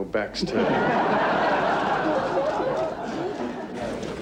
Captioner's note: audience laughing